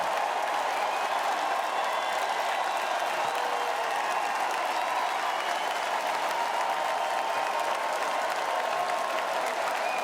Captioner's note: cheering and Applause